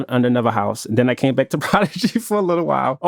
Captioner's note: laughs